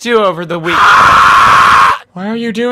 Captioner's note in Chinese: 尖叫